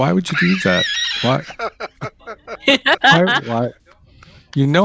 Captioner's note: laughter